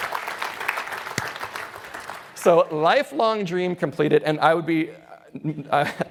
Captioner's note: applause